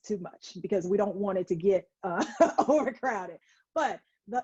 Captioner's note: laughing